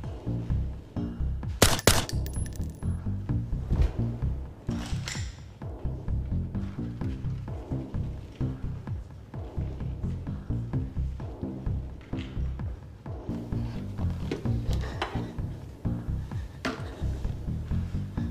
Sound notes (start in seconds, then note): 1.6 gun firing; 14.7 Jeanie gasping